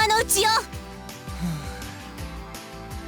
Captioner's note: sigh